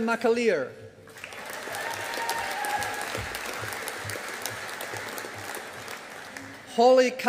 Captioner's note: audience applauding